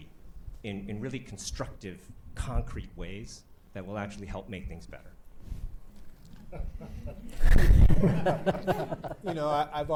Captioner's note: laughter